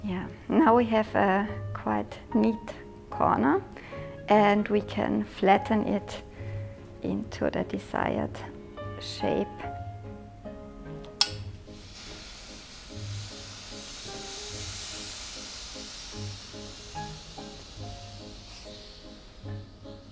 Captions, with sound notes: Yeah, now we have a quite neat corner and we can flatten it into the desired shape (iron sizzles)